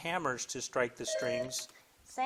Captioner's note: bell dings